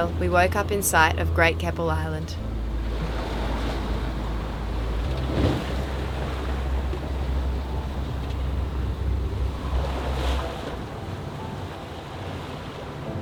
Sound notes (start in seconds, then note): 4.8 waves crashing; 10.7 soft piano